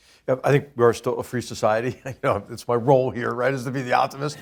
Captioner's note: laugh